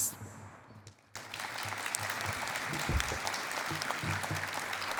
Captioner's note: applause